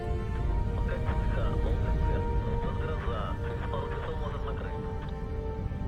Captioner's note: man speaking in foreign language